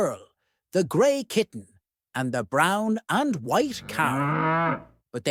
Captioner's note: cow moos